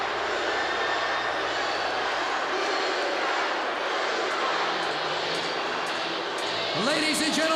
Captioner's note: crowd cheering